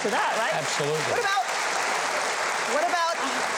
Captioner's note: audience applause